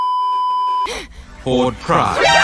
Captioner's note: beeeeeeeeeeeep; yelps; scoffs